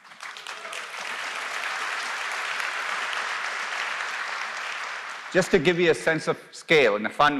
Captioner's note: applause